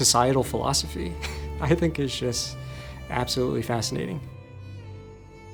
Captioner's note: laughs; gentle contemplative music